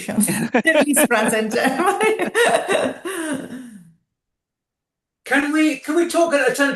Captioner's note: laughs